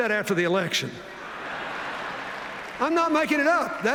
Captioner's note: laughter